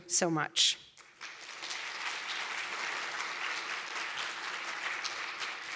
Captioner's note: applause